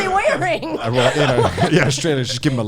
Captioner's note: all laughing